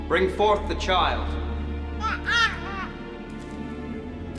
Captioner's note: baby crying